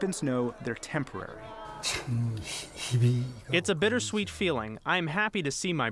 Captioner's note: through translator